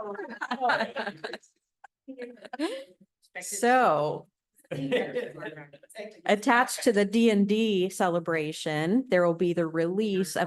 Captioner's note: laughter